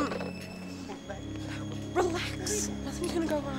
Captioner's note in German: Husten